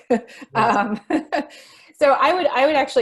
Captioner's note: laughs